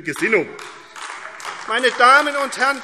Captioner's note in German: Beifall AfD